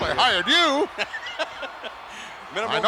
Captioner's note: laughing